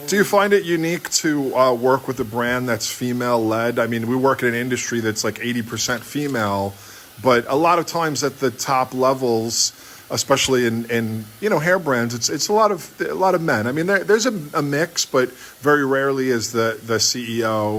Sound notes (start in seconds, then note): none